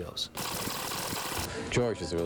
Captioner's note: tape rewinding